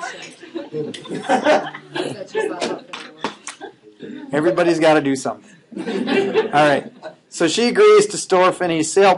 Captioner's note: laughing